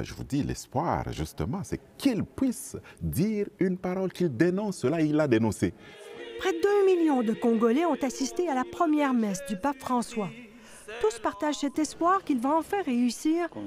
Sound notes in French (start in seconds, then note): 5.8 chants